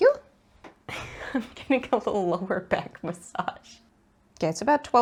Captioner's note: giggles